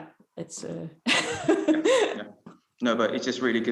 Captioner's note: laughs